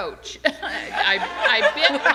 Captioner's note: laughter